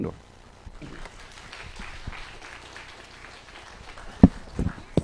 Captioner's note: applause